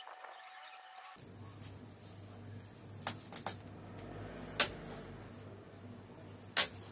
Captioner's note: heavy duty loppers straining